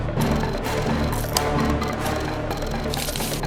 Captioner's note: button clicks